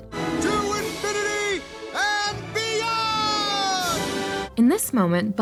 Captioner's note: shouts